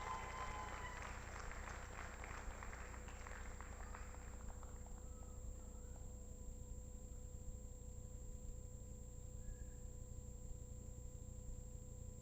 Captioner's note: applause